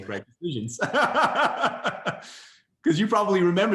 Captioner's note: laughs